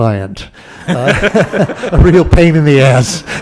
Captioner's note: laughter